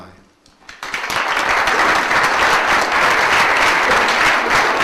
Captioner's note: audience applauds